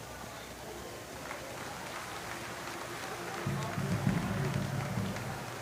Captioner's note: applause